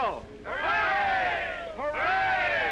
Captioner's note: crowd